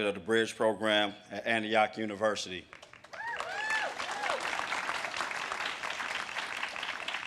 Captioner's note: audience cheers and claps